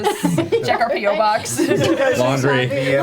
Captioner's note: laughs